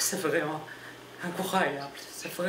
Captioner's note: speaking french language